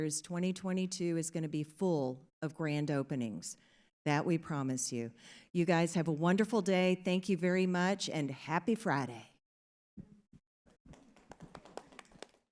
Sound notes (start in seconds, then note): 11.2 audience applauds